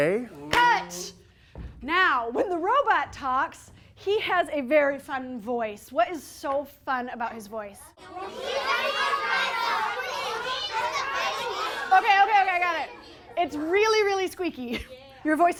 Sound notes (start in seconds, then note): 8.1 audience yells